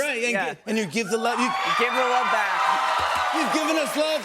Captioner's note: cheers and applause